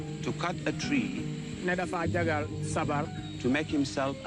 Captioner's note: foreign language